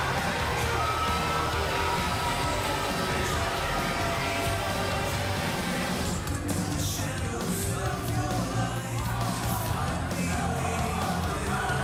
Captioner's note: crowd chatter